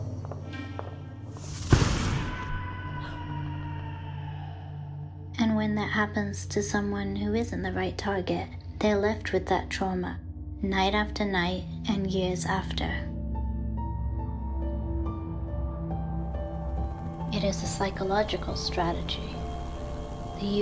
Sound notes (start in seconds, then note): 1.6 gun firing; 2.2 person screaming; 13.3 soft somber music